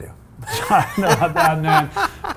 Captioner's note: laughs